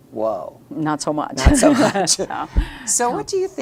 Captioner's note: laughing